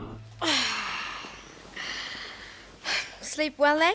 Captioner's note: sighs